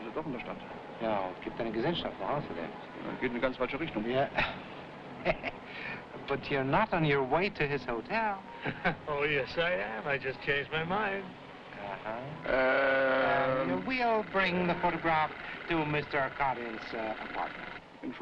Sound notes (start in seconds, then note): 0.2 officers speaking foreign language; 5.2 officer chuckling; 8.6 guy chuckling; 18.0 officer speaking foreign language